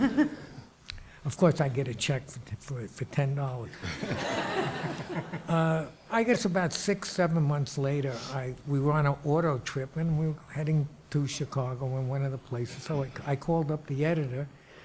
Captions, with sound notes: Of course, I get a check for $10. (audience laughs) I guess about six, seven months later, we were on an auto trip and we're heading to Chicago and one of the places, so I called up the editor,